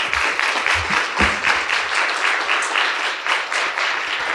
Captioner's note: audience applauds